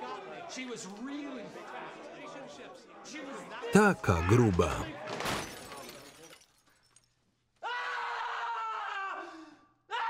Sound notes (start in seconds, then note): 5.2 glass shattering; 7.6 screaming